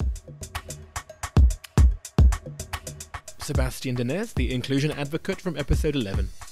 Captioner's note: voiceover